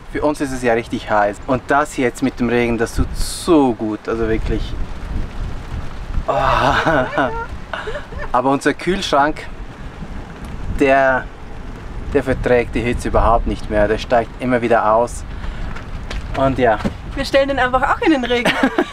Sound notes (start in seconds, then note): 6.3 cheers